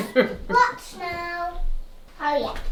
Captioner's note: child babbling